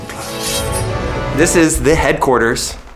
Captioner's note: swords clang